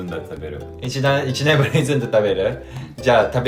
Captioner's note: laughs